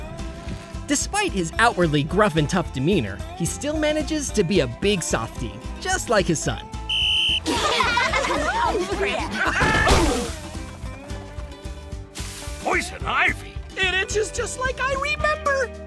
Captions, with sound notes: Despite his outwardly gruff and tough demeanor, he still manages to be a big softie, just like his so. [laughing] Poison Ivy? It itches just just like I remember!